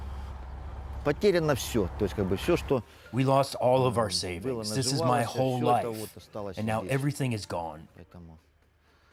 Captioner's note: through translator